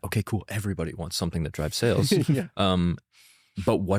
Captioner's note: laughs